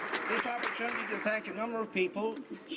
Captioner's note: some Applause